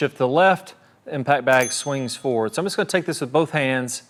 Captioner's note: bell dings